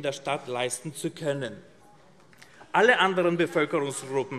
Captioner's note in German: Zuruf